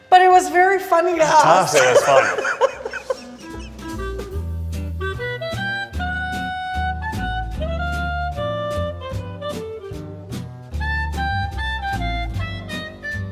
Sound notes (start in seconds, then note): 2.8 laughing; 4.9 whimsical music